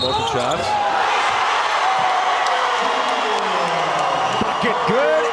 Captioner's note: audience cheers